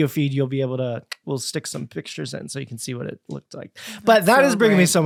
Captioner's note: clicks tongue